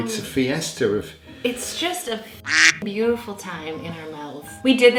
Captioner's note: beep